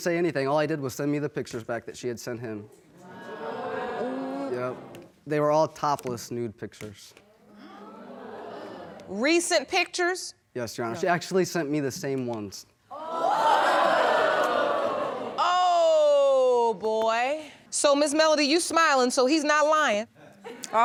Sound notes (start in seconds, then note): 5.2 audience murmuring; 12.9 audience gasping